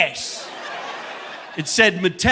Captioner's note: audience laughing